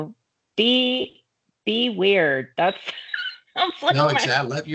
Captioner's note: laughing